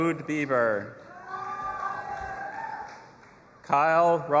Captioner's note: audience applauding and cheering